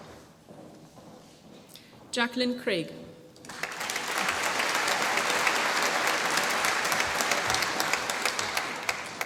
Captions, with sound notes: Jacqueline Craig. (APPLAUSE)